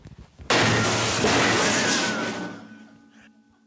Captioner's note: bin thuds, metal clatters